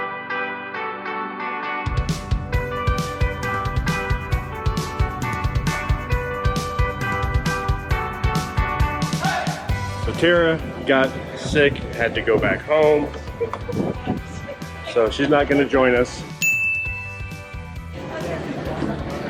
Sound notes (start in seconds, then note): 9.0 friends cheering; 13.5 upbeat surf music